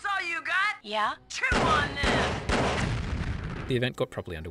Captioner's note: gunfire, then huge explosion